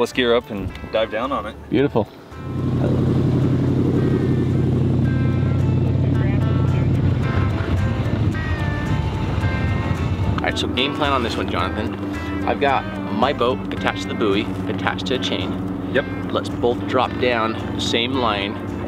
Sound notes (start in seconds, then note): 2.6 boat engine roaring; 2.6 upbeat music